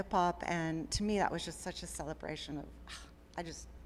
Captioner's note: gasps